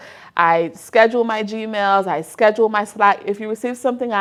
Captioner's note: none